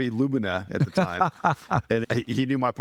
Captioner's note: laughing